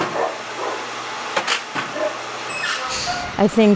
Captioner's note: truck humming